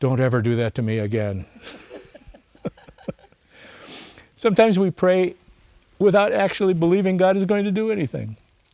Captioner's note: laughs